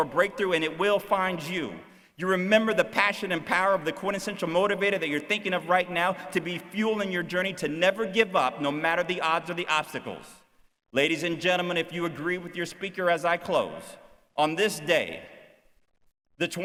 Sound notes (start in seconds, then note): none